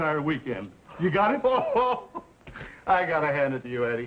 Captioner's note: Harry laughing